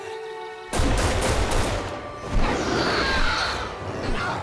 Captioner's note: gun fires